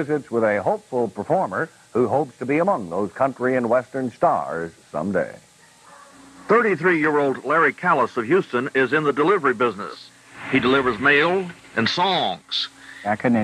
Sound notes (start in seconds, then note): none